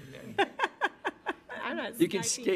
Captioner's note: laughing